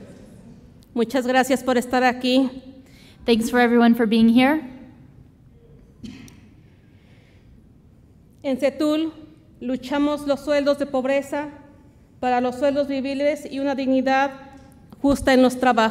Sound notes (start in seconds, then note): 0.0 audience murmurs; 0.2 speaks Spanish; 8.3 speaks Spanish